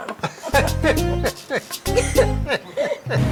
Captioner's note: everyone laughs